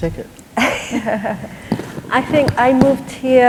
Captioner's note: laughter